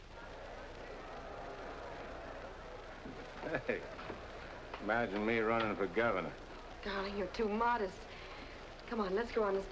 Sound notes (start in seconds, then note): 0.0 crowd chattering